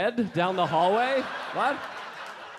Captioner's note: audience laughing